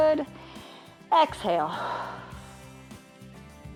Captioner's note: exhales